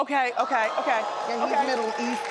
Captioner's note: audience cheering